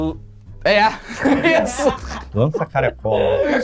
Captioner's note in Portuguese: risadas